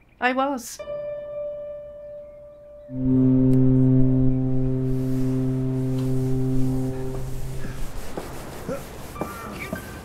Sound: sound of a ship’s horn

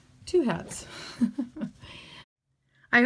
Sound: chuckling

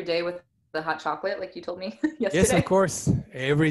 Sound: giggles

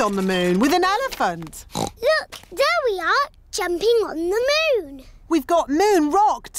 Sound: oinks

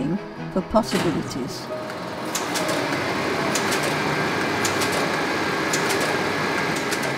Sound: machine noise

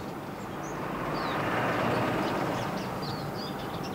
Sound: birds chirping

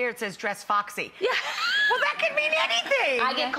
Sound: laughing

